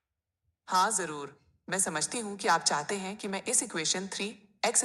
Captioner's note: speaking hindi